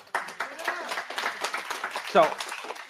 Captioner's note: applause